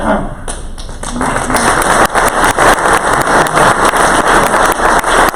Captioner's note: crowd applause